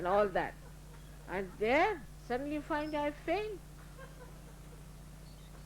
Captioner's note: laughter